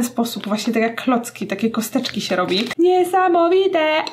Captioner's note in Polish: dziwnym głosem